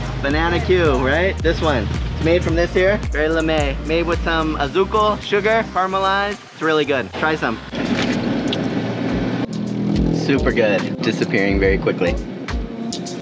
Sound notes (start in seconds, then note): 3.3 speaks foreign language; 7.2 car engine running